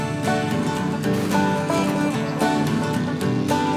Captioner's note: cars crashing